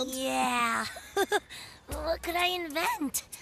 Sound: chuckling

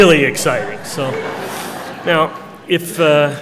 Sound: laughter

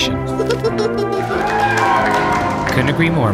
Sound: children laughing; crowd cheering

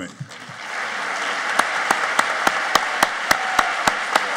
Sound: applauding

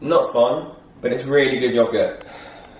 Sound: sighs

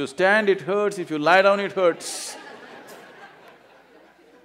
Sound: laughter

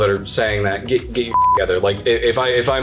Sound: beeps

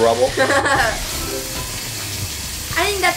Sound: assistant laughing

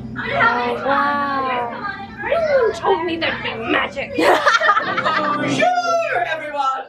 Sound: laughter

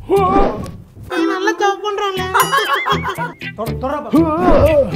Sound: girls giggling

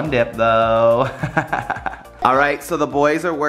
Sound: laughs

